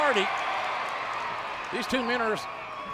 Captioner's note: audience cheering